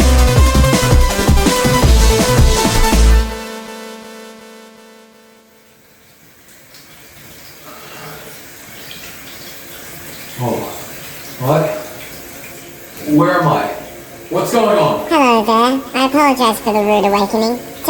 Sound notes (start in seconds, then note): 3.0 music fades out; 5.0 shower noises and choir ambience fades in; 7.7 laboured breath